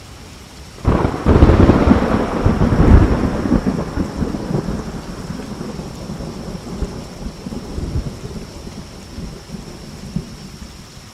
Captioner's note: thunder, rainfall